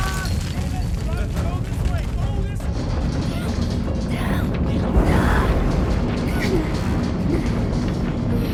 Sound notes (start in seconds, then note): 2.8 gasping